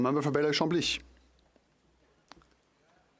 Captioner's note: speaking French